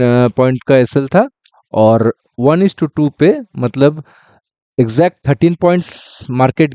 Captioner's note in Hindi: नाक से की जाने वाली आवाज़